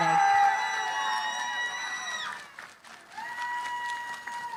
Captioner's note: cheering, applause